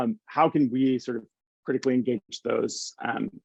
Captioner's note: hands clapping